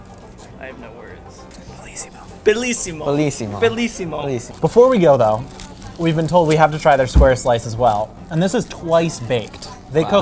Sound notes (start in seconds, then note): 1.6 whispers